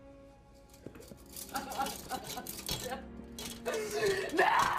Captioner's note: Nikita sobbing